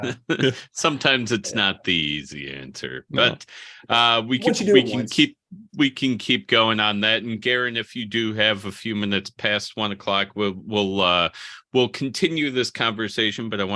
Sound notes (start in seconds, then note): 4.4 chattering